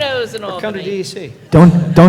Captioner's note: laughter